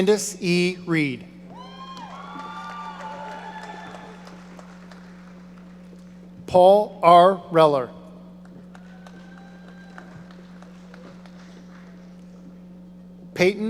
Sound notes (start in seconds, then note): 1.6 audience applauding; 8.6 audience applauding